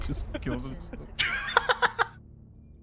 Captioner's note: giggle